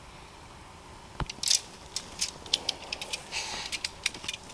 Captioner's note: poles rattling